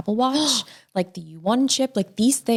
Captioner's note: gasping